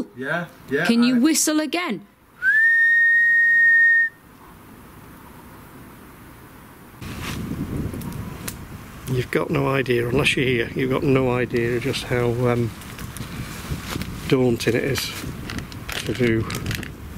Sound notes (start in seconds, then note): 2.4 whistles